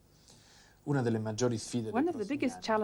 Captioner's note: italian